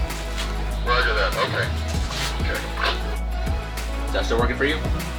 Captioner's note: man Over Radio